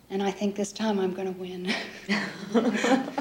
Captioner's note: chuckling